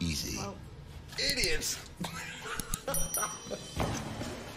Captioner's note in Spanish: risas